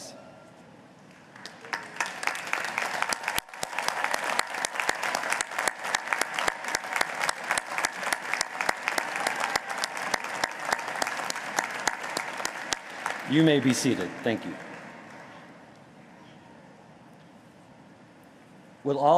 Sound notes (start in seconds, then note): 7.5 applause